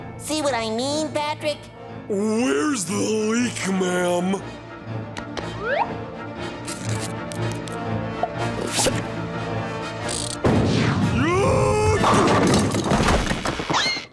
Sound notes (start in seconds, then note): 11.2 screaming